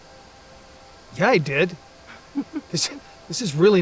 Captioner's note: laughs; Bonnie chuckles